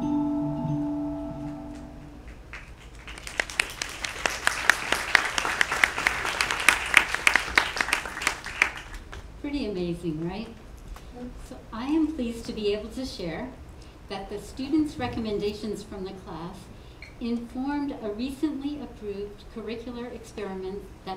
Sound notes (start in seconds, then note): 0.0 light music; 2.2 applause